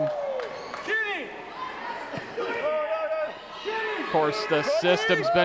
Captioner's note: crowd clamoring